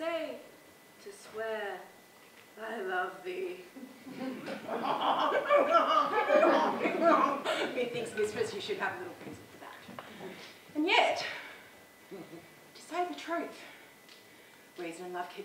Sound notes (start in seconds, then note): 3.8 laughs